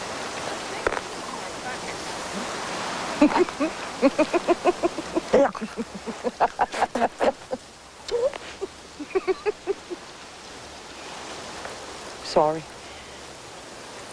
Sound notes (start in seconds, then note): 0.8 crunching; 3.0 snickering; 6.4 chuckle